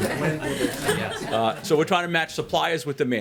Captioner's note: laughter